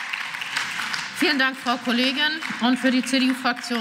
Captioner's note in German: Beifall